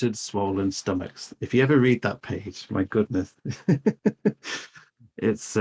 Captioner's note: laughs